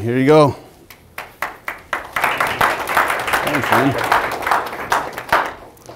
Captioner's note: applause